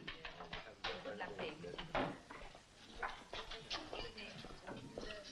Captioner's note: patrons chatter quietly